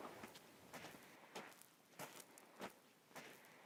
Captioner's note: background footsteps on gravel